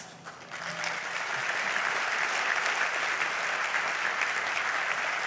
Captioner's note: audience applauds